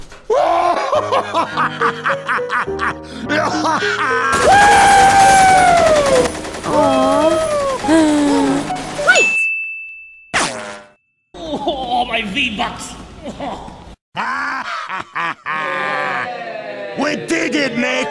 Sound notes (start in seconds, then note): 6.8 sighs; 11.6 groaning; 13.0 more groaning; 14.2 laughing; 15.5 Retardedlings cheering